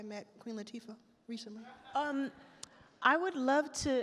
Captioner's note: attendees laugh